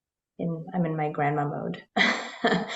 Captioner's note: laughs